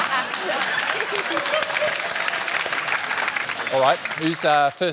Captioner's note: laughter; applause